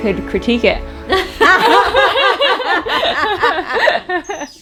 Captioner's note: laughing